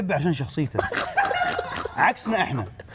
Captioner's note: laughs